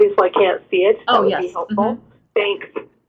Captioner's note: voiceover